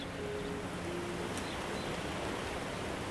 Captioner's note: birds chirping